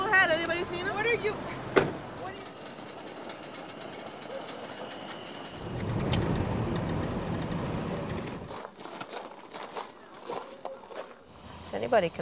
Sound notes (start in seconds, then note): 2.3 plane engine rumbles; 5.8 vehicle crackles; 8.1 shoes crunch